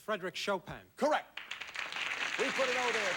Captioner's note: audience applauding